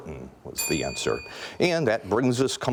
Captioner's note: bell ringing